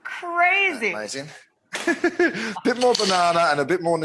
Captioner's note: laughs